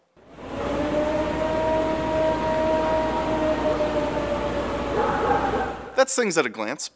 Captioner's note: howling